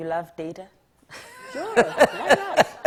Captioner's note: audience laughing